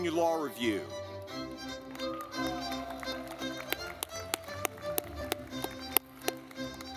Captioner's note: lively music; audience clapping